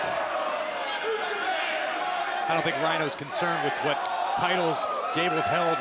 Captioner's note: crowd chatter